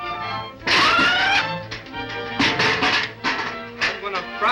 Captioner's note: Sinbad shrieks